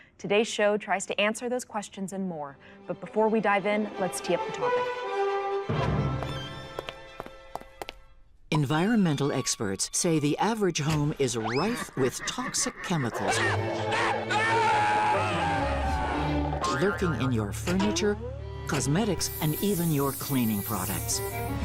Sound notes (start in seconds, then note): 5.4 dramatic music; 13.4 screaming